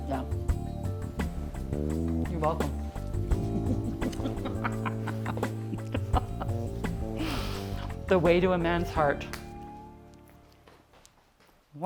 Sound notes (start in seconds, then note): 3.4 laughing; 3.5 kissing